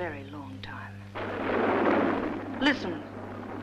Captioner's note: distant rumbling